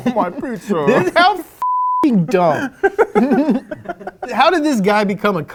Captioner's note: beep